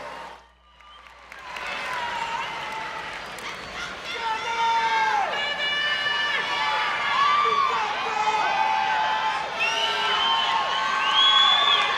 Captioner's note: crowd Cheering